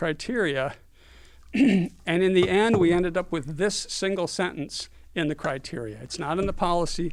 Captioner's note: cough